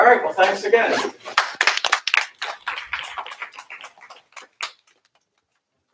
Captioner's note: applause